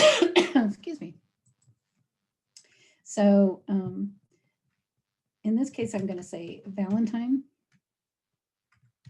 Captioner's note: coughing